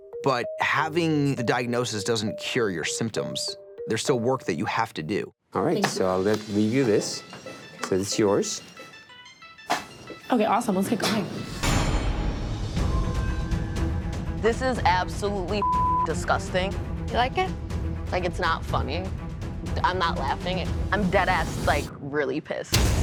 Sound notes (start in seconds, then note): 11.8 dramatic music; 15.6 beep